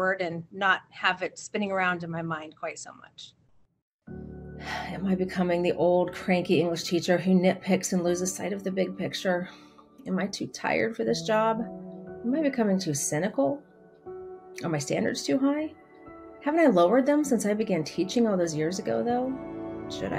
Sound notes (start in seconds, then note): 4.9 sighs